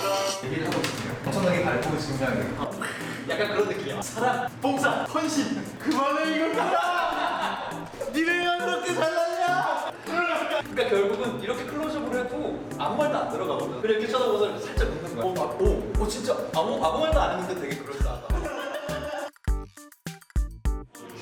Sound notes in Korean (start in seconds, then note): 18.0 웃음소리